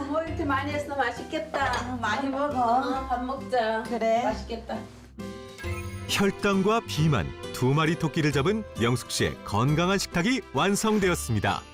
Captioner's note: voiceover